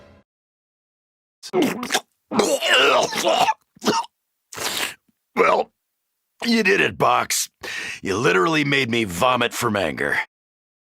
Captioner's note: vomits